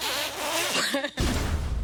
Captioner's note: blowing air; laughing; door rumbles